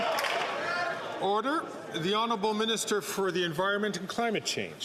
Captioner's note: some Applause